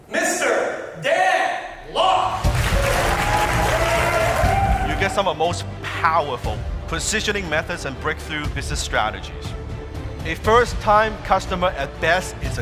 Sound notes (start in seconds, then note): 2.4 applause